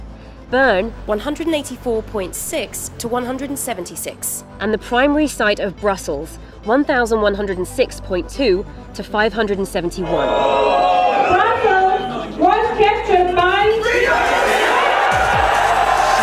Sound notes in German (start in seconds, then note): 10.0 Jubel; 16.0 Jubel